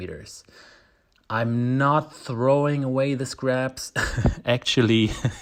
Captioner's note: laughs